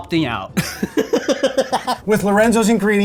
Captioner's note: laughing